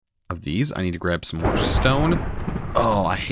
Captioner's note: thunder crashes